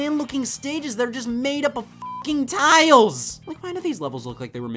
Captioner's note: beeps